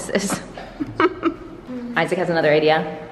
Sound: laughing

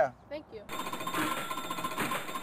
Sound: alarm sound

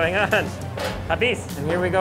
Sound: speaks in foreign language

